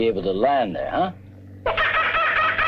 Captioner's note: Pete cawing